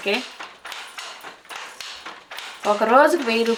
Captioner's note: steady clacking sound